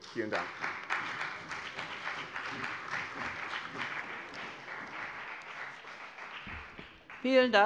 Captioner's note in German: Beifall bei dem BÜNDNIS 90/DIE GRÜNEN und der CDU